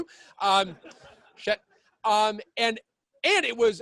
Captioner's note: laughing